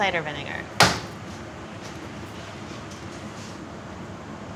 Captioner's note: hand slams